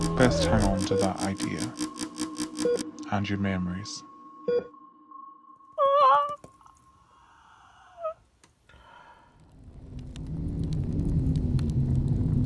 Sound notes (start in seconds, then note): 4.3 music and beeping stop; 5.8 JENNY sobs; 8.8 sounds of wind and crackling fire